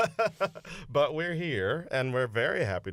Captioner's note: laughter